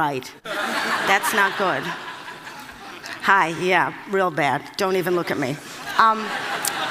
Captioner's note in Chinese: Laughter; 笑聲; Laughter; 笑聲